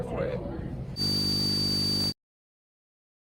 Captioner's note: high-pitched buzzing